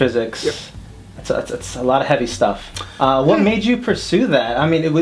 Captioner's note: laughs